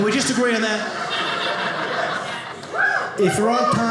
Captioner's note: audience laughing